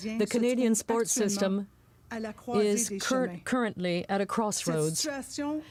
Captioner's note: speaking french